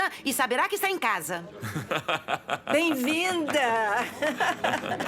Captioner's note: laughter, applause